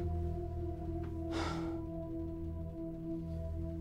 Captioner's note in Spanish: Gruñidos; Suspiros